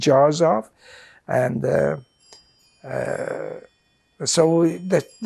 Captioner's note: doorbell